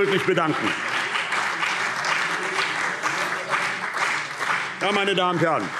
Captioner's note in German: Beifall CDU und BÜNDNIS 90/DIE GRÜNEN